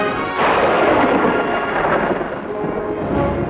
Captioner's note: thunder rumbling